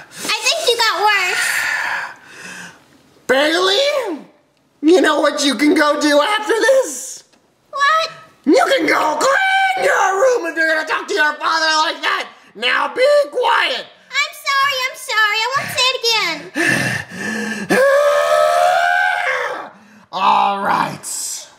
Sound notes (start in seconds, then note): 17.6 frustrated yelling